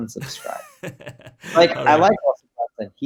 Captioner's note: laughs